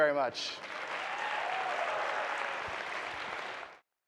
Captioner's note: audience cheering